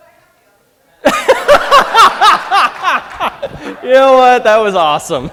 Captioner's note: laughter